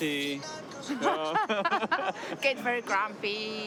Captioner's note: laughing